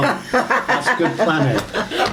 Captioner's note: laughing